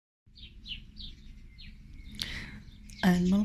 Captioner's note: birdsong